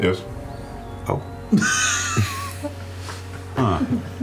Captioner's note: wheezing laughter